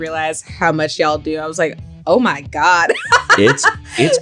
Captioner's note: laughs